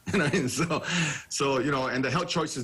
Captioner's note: chuckling